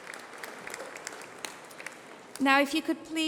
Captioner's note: applause